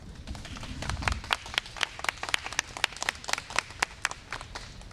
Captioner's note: applause